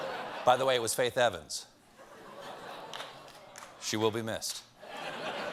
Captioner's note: laughter